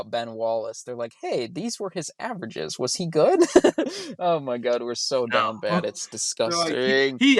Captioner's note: laughs